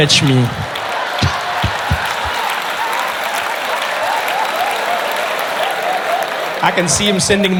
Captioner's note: laughter